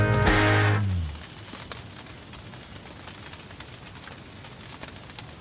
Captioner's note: rain hitting blind